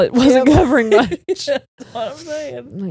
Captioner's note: laughs